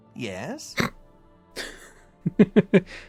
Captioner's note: snort; giggle